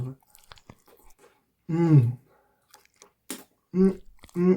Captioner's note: sloppy slurping